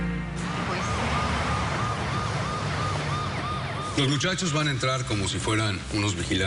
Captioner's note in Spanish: Ruidos del tráfico